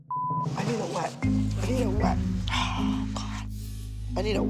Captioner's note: sighs